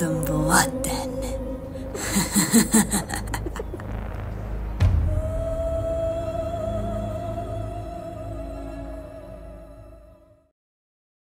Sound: chuckles once more

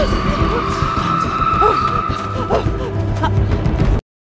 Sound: gasping

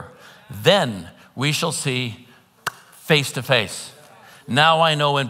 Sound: claps hands

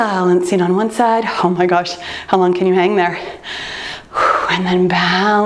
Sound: exhales

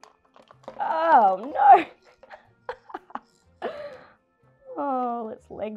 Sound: laughs

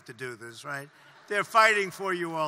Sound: laughter

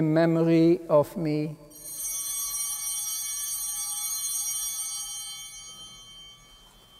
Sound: chimes ringing

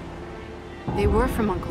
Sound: thunder rumbling

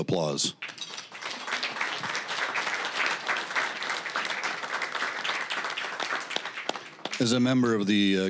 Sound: applause

